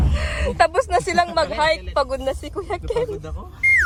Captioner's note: laughing